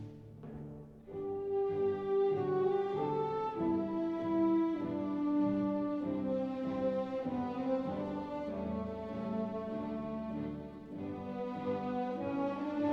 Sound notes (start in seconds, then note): none